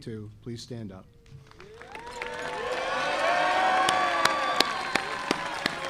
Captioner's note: audience applauding